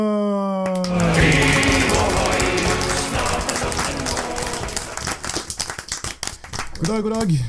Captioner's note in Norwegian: Applaus og musikk